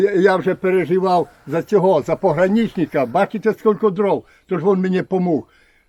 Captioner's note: Ukrainian